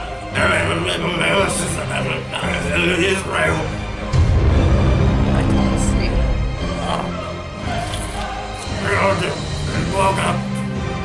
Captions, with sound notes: Mass poisoning of Palestinian onion fields IS REAL?! I can't see.. [grunt] ..and the international..